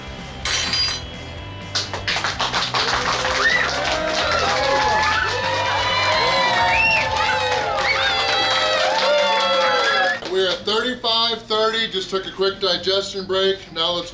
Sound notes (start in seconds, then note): 1.6 clapping & Cheering